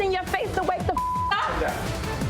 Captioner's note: beep